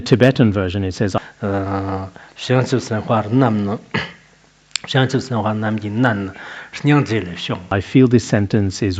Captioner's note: citing scripture in Tibetan